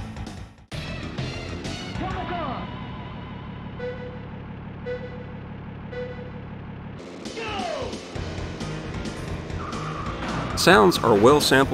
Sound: game sounds

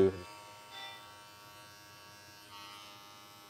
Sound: razor buzzing

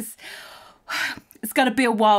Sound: sighs

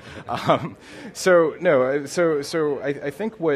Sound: laughing

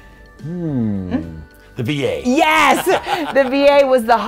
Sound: laughs

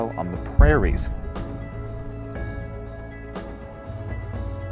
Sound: bombs exploding in distance

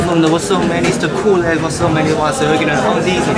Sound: returning clamorously after the show

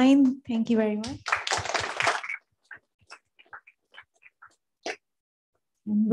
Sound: applause

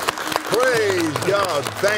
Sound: applauds

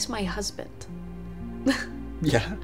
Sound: Summer chuckles

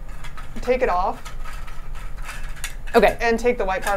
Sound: machine part rattling

